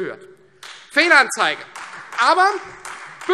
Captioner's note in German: Beifall Freie Demokraten